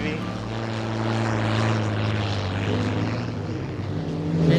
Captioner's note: boat engine purrs